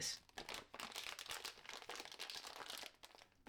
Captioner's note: more crinkling